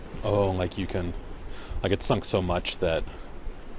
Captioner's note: voiceover